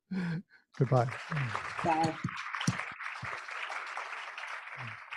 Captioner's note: applause